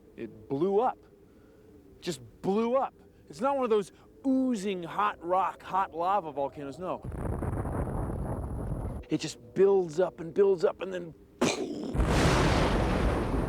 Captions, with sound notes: IT BLEW UP, JUST BLEW UP. IT'S NOT ONE OF THOSE OOZING, HOT ROCK, HOT LAVA VOLCANOS, NO. IT BUILDS UP AND BUILDS UP AND... ( imitates explosion )